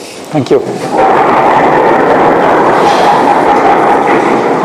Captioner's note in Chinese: 引擎声